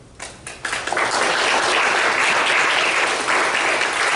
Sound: audience claps

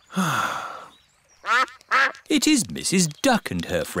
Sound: sighs; quacking

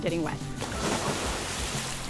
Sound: splash

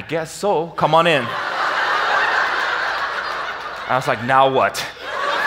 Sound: audience laughs

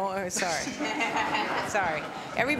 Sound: laughter

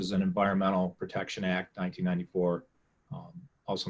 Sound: none

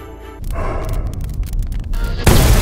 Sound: sighs

